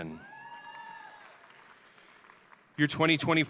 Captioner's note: audience cheering